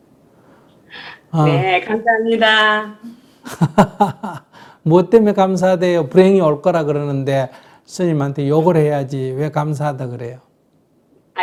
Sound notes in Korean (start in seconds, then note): 3.4 스님 웃음; 3.4 질문자 웃음